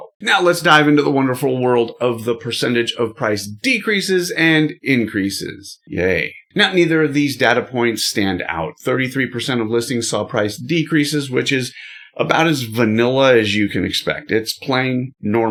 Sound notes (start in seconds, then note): 5.8 sound bored